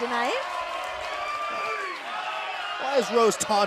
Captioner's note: cheers and applause